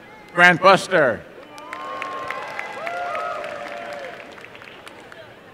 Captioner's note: applause and cheering